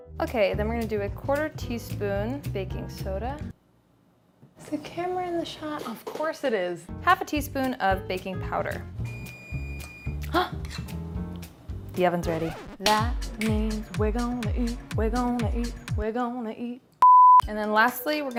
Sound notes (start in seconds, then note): 9.0 oven beeps; 10.4 gasps